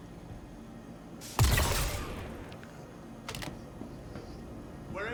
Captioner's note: gun firing